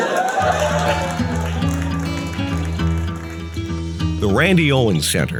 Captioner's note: audience cheering